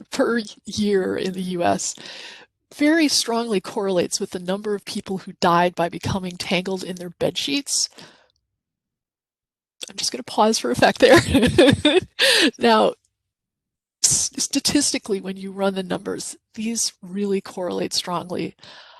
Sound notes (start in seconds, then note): 11.1 laughs